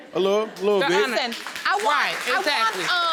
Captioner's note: audience laughing